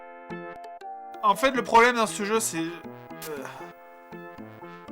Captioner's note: sigh